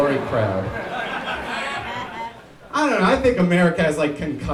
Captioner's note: crowd laughs